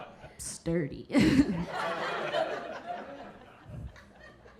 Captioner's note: audience laughing